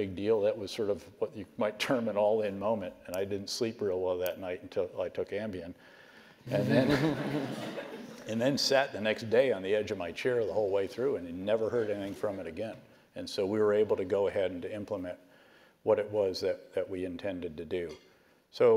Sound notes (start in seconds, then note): 6.4 laugh